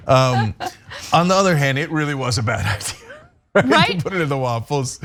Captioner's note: laugh